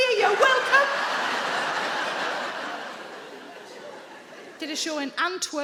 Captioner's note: audience laughing